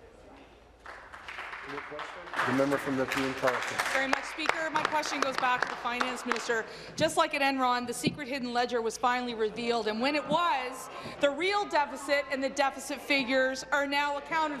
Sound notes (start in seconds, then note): 0.0 speaking in French; 4.0 applause